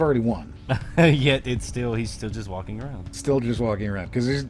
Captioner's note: laughs